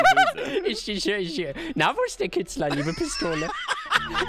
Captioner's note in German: hahahaha